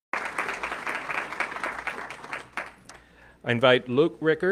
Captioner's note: audience clapping